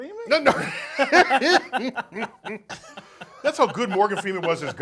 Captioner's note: laughs